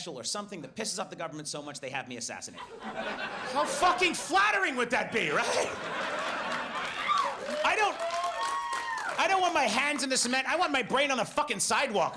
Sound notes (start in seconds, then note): 2.5 audience laughs; 5.1 laughs